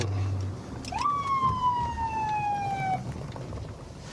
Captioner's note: sirens blaring